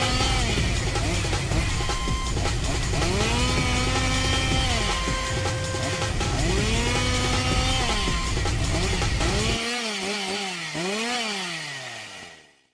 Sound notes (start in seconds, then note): 0.0 chainsaw noises